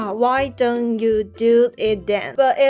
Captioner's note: in Mandarin